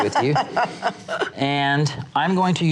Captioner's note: laughs